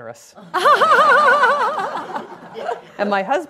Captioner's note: laughing